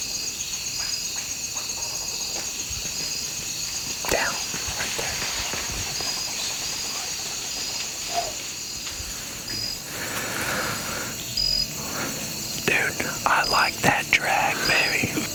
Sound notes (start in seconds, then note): 3.2 whispering; 9.1 whispering